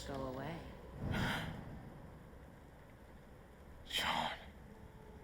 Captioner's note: wolf gasping